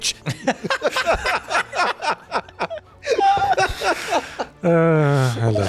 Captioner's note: laughter outbreaks